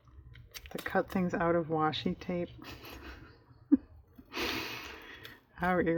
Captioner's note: laughs